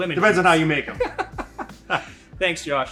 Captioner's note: laughs